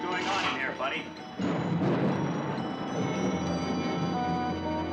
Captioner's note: suspenseful music; thunder rumbles; suspenseful music